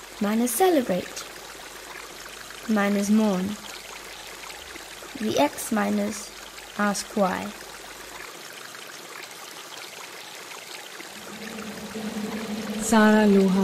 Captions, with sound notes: miners mourn. The X miners asks why. (water flowing) (female speaks in foreign language)